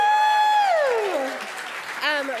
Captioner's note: applause